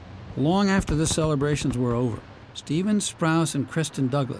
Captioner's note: voice-over